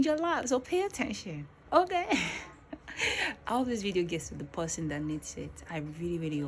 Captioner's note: laughs